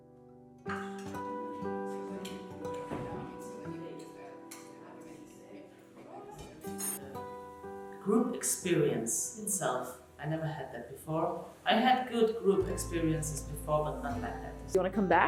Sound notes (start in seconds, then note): 1.5 guests chattering; 3.7 dishes clinking